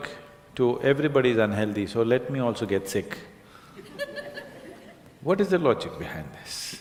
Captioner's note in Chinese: 聽眾笑聲